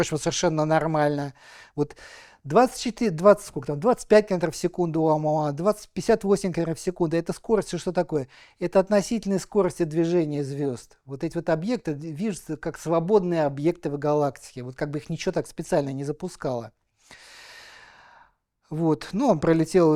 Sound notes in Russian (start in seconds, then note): 17.0 тяжело вздыхает; 17.4 вздыхает